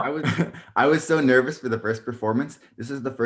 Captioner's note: laughing